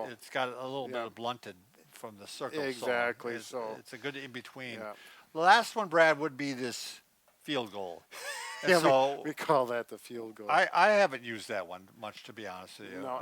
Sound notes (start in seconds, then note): 8.2 chuckles